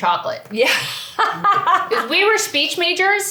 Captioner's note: laughs